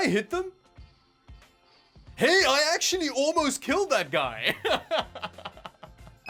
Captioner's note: laughs